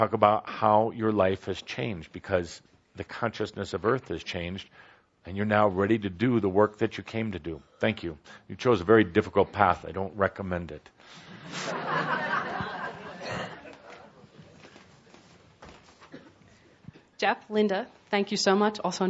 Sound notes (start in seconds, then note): 11.4 some laughter